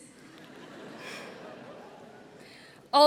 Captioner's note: laughter